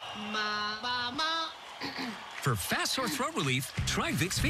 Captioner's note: clears throat